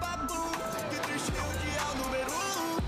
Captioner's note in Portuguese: motor dando partida